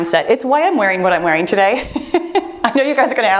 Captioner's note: laughs